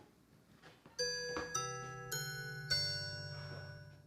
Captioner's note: doorbell chimes